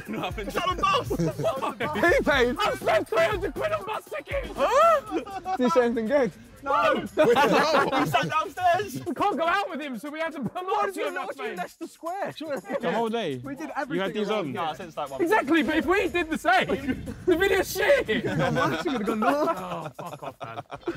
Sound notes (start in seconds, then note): 18.3 all laughing